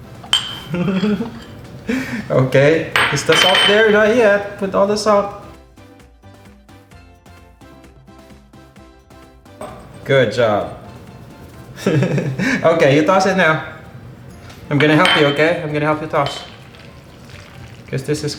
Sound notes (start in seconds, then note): 0.6 giggling; 11.7 giggles